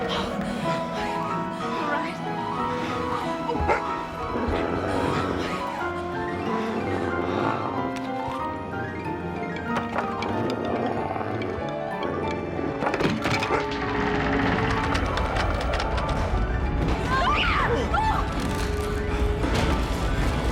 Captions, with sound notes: (all panting) Are you alright? (dog barking, growling) (eerie groaning) (all screaming)